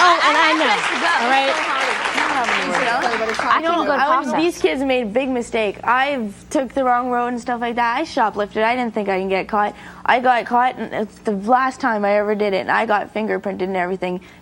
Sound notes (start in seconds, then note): 3.4 overlapping chatter